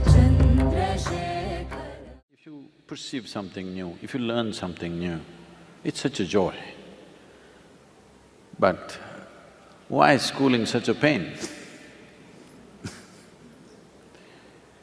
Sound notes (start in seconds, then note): 12.8 laughs